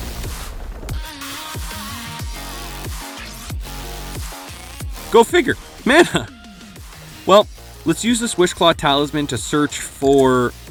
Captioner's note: laughs